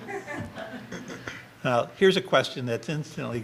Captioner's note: audience laughter